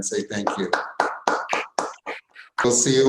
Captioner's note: applause